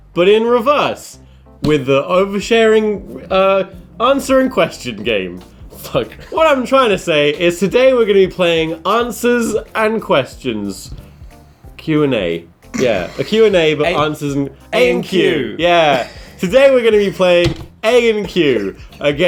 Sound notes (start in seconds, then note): 12.7 snickers